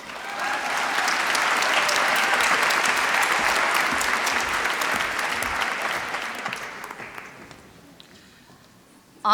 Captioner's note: applause